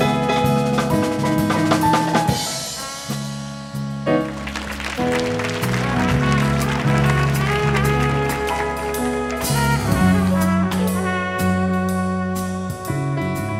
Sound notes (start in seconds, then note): 4.2 audience applauding